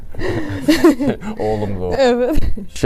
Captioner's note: laughs